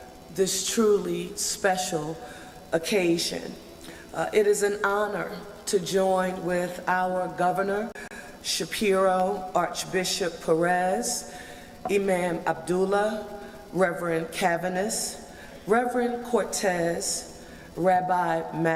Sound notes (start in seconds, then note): none